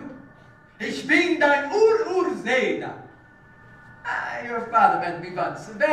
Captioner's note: german